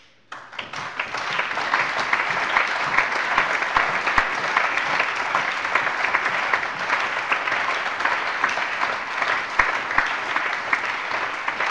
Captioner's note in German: Allgemeiner Beifall